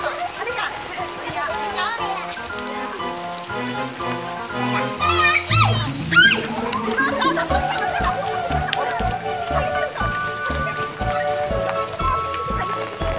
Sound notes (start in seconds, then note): 4.6 Ling squealing; 12.1 kids giggling